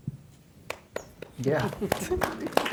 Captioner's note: applause